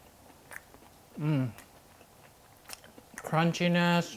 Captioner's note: lips smacking